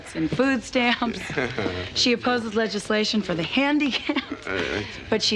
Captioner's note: Michael chuckles